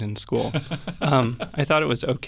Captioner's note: laughing